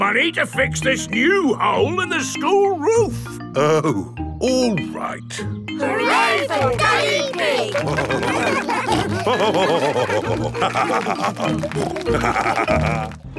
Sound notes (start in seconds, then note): 8.6 all cheering; 9.7 laughing; 11.7 snorting